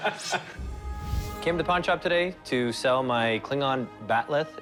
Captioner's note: laughs